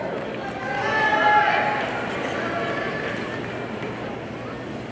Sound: audience cheers

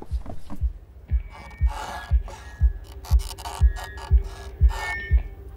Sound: mic Feedback

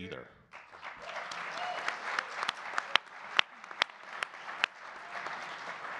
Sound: audience clapping and cheering

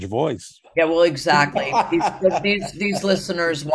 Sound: laughing

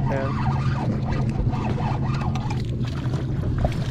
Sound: braided line strains against the rod rings

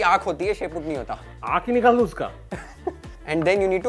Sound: laughs

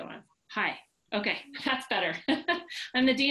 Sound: laughs

